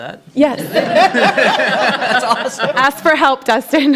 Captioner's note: laughter